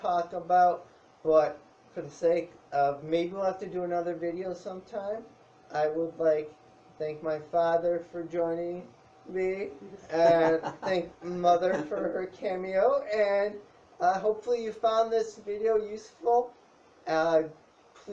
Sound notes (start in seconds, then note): 10.0 laughs